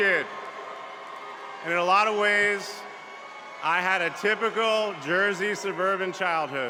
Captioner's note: cheers and applause